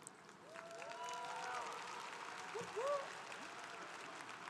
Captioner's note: congregation applauding